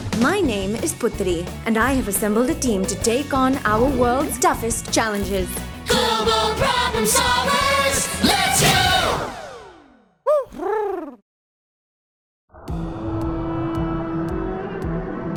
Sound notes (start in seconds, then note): 10.2 Huti hoots; 12.7 dramatic music